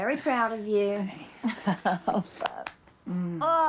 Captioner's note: Rose laughs